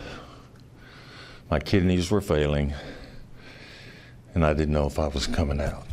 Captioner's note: heavy sigh